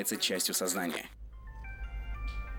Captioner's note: fly buzzing; asian music